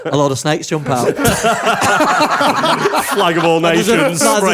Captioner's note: laughter